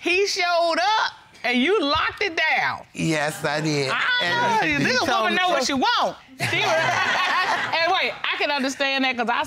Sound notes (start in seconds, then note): 6.4 all laughing